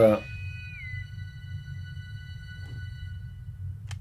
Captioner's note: intercom whistles